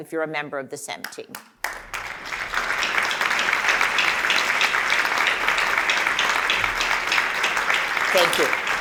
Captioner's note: applause